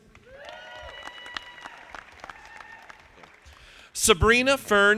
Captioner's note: audience applauding